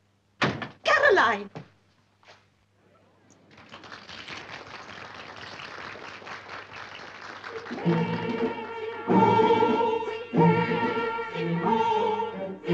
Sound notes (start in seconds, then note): 3.4 applause